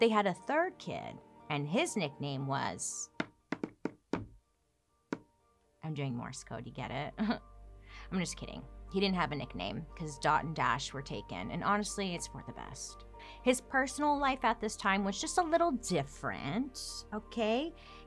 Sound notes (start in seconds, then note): 7.2 chuckles